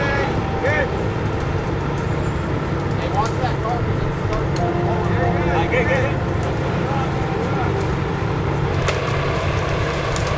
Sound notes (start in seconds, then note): 3.2 people chattering